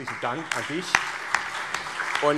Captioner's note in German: Allgemeiner Beifall